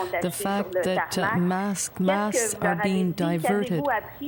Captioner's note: speaking French